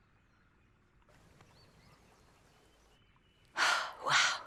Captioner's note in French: gazouillis d'oiseaux, bouillonnement d'eau